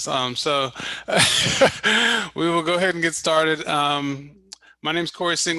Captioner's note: laughs